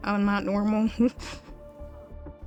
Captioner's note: chuckles